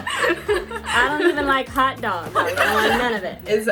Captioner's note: everyone laughing